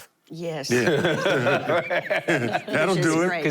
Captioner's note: laughter